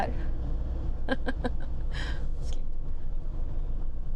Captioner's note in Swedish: skratt